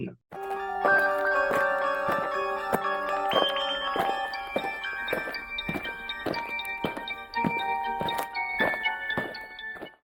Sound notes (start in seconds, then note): 0.3 eerie music; 4.9 aliens marching